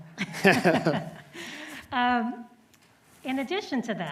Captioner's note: laughing